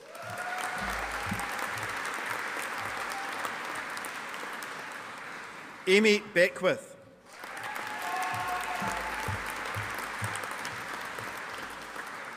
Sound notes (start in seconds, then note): 0.0 audience applauding